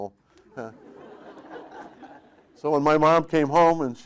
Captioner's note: audience laughing